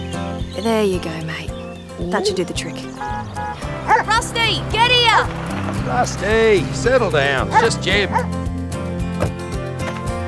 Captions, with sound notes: There you go mate…that should do the trick. Rusty! Get here! [Rusty is barking at the car as it comes up the drive.] Rusty!